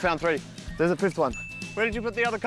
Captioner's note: ding!